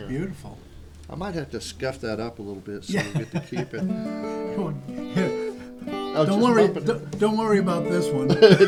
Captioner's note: laughter